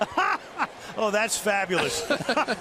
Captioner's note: laughter